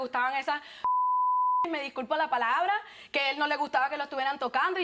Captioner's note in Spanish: Bip